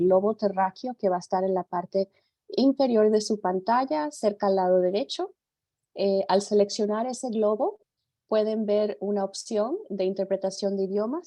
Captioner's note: speaks in Spanish